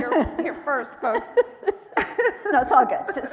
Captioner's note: laughing